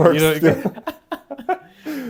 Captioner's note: laughs